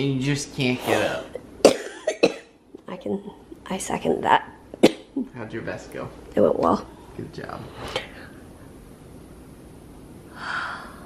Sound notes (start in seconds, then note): 1.6 coughing